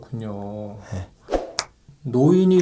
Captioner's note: snap!